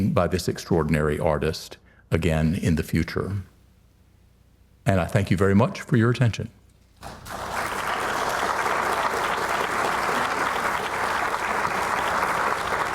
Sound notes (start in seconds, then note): 7.0 audience applauds